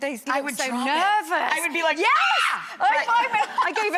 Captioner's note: screams